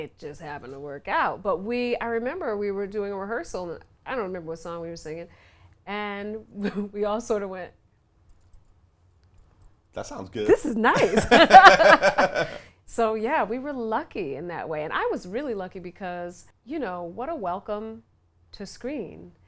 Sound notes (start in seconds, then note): 10.5 laughs